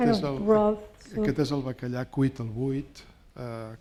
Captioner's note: speaking spanish